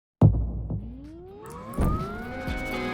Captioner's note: exploding; uptempo music